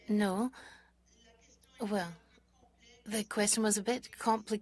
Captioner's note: speaking French